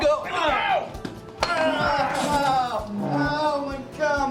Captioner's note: screaming